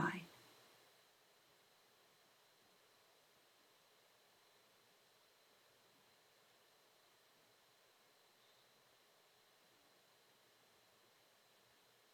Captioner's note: silent Meditation